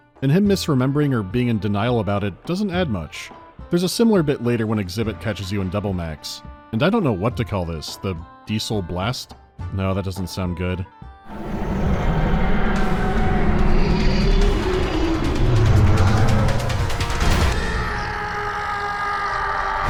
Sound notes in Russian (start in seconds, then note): 11.3 низкое, животное рычание; 17.2 громкий крик